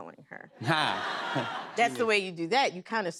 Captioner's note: laughter